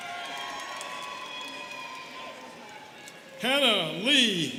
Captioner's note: students cheering